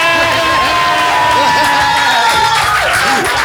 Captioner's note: applause